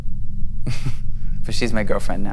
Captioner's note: laughs